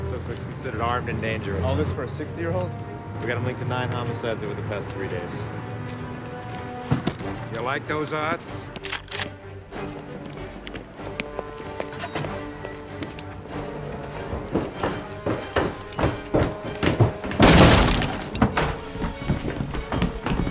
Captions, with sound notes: suspect is considered armed and dangerous. - All this for a 60-year-old? - We've got him linked to nine homicides over the past three days. - You like those odds? (gun clicking) (suspenseful music) (door smashing)